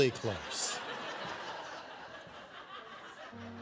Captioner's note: laughter